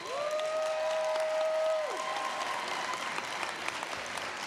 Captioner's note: cheers, applause